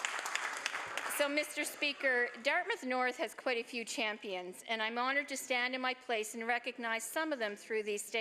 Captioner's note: applause